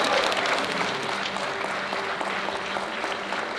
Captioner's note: cheering and applause